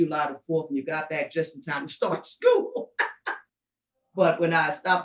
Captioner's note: laughing